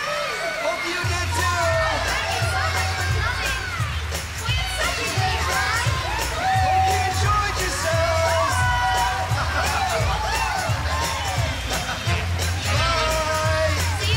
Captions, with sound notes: HOPE YOU DID, TOO! HOPE YOU ENJOYED YOURSELVES! ( Chuckling ) BYE!